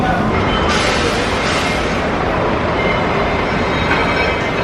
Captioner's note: air hissing